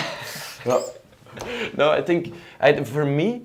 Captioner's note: laughter